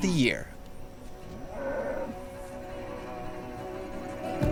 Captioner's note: cattle mooing